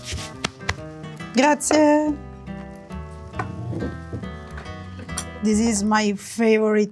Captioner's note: speaking in foreign language